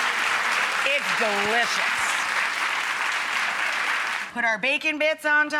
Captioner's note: audience applauding